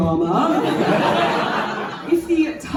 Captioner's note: laughter